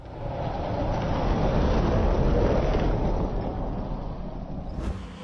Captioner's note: light car engine humming